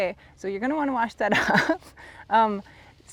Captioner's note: chuckles